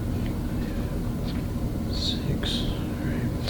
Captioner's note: whispering